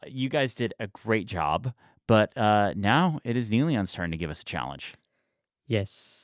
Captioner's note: none